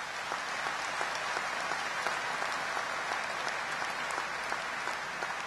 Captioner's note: applause